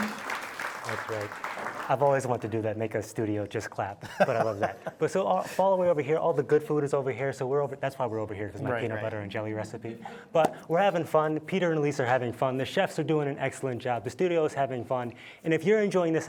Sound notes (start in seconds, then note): 1.8 audience applauding